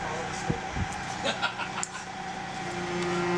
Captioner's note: laughs; instruments tuning